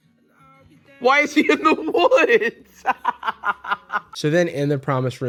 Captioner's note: laughs